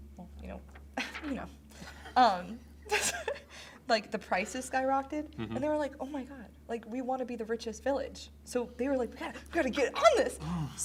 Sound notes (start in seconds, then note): 2.9 both laugh